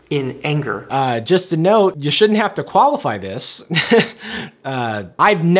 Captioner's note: laughs